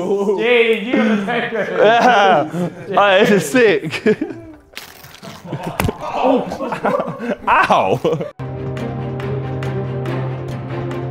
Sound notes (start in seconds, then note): 0.8 laughs; 8.4 dramatic music